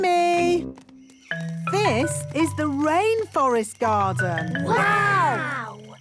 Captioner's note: rainforest sounds